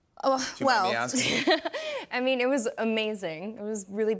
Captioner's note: chuckles